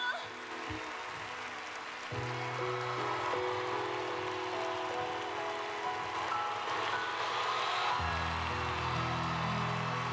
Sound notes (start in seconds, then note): 0.9 applause; 3.9 cheering